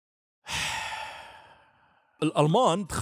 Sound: sigh

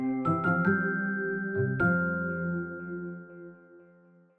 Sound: chime

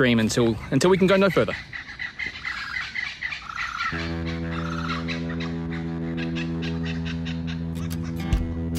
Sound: sound of kookaburras

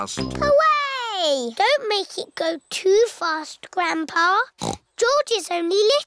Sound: snorts

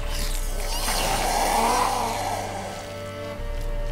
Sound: hoarse cry

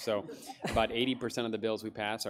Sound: audience laughs

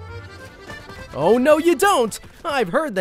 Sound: without French Accent

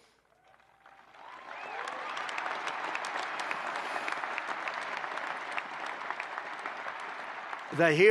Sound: applause

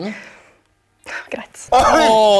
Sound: hesitates

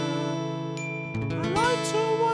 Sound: ding

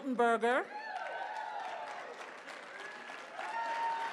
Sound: cheering

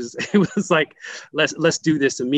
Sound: laughs

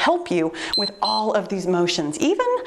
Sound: timer beeps

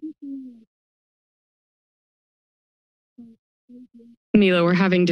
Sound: silence

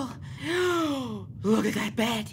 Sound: gasping

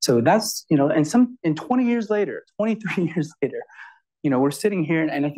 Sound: chuckles

